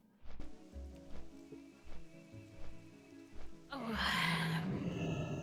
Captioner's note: sigh